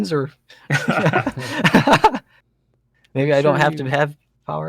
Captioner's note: laughter